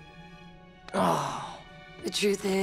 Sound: groaning

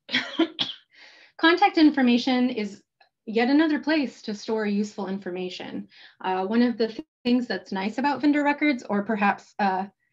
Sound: coughs

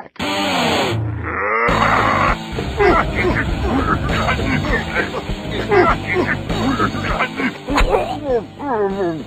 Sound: grunting

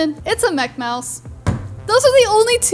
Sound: bangs hands on table

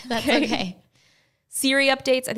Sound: laughing

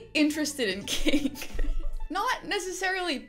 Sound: chuckling

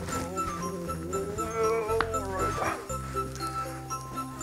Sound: groaning

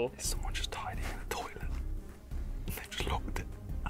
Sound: whispering

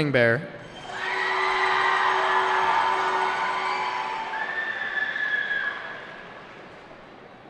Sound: cheering

